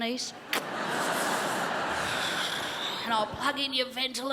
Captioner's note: crowd laughs